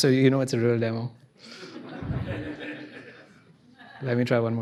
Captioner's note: laughter